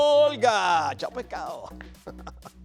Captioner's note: laugh